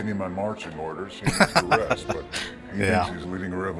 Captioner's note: laughing